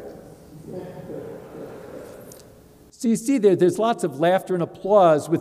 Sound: laugh

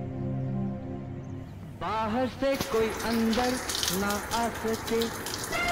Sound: radio playing

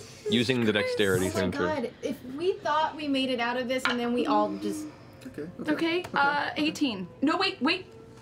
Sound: none

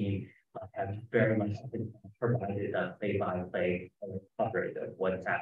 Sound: speaking faintly

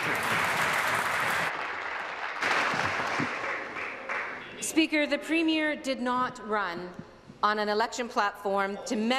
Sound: applause

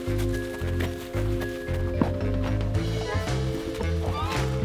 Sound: upbeat music; footsteps; upbeat music

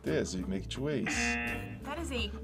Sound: buzzer

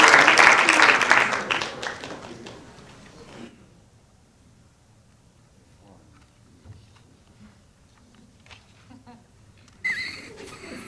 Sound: applause

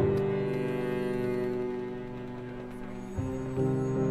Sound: phones ringing

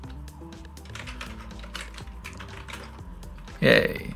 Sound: keyboard clacks

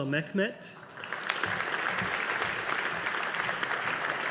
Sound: audience applauding

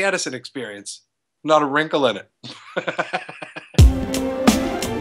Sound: laughs; music transition

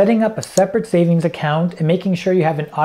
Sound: mouse clicking

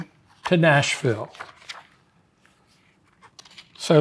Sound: pages rustling

